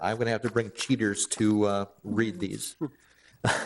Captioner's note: laugh